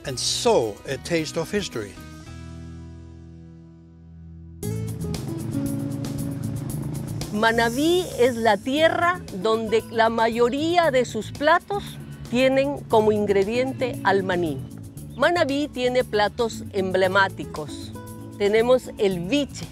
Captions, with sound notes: And so a Taste of History. (bright music) (food historian speaking spanish)